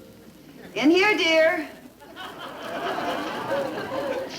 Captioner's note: audience laughter